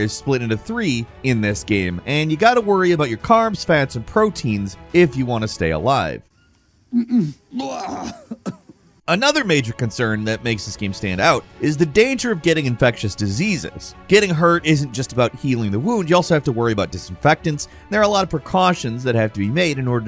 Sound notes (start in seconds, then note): 7.3 gamer retching